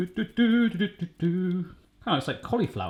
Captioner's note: humming